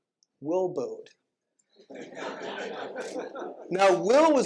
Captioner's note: laughter